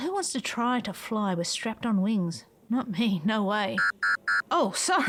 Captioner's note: proximity alarm goes off